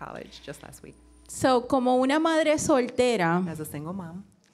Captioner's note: speaking in foreign language